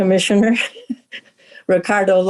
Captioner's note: chuckling